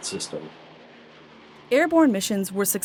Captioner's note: airplane engine sound